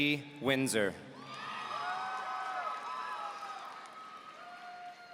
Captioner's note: audience cheering